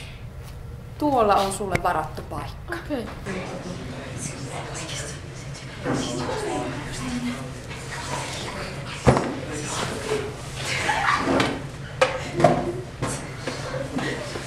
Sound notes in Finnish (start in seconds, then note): 3.3 kuiskintaa ja naurua